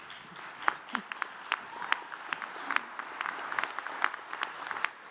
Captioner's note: audience applauds